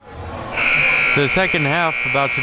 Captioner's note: buzzer buzzes